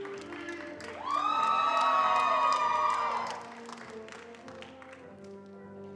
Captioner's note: attendees cheering and applauding